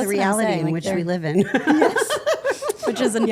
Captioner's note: group laughing